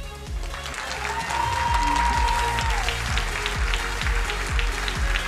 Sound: crowd cheering and applauding; upbeat music

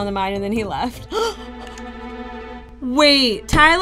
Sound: gasps

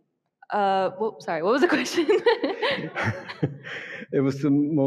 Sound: giggling

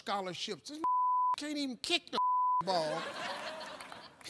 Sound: beep; audience laughing

